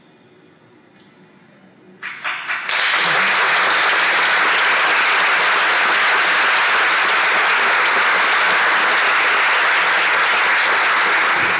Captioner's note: applause